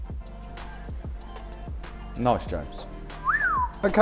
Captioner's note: whistles